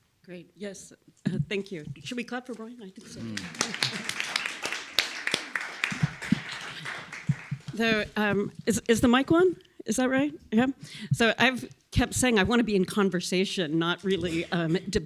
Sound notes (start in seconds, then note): 3.1 applause